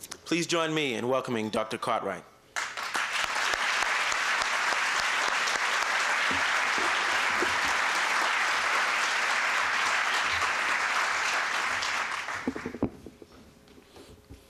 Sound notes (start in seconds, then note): 3.2 applause